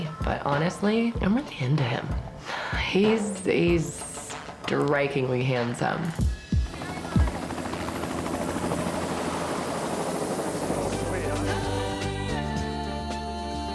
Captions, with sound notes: but honestly I'm really into him. He's strikingly handsome. (helicopter buzzing) (bright orchestral music)